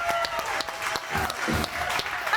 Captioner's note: audience applauding; energetic music